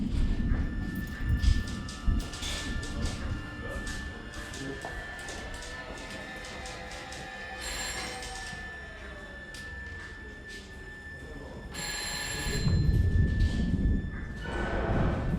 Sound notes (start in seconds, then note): 1.2 dramatic music; 7.4 phone ringing